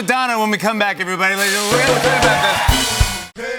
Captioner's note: cheers and applause